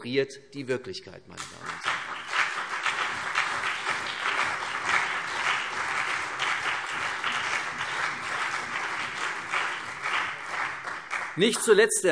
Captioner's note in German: Beifall CDU und BÜNDNIS 90/DIE GRÜNEN